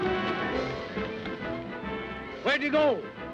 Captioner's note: none